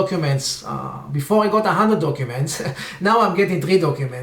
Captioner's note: laughs